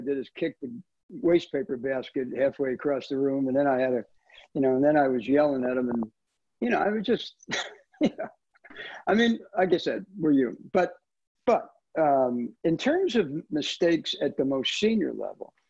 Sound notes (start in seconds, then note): 8.0 chuckles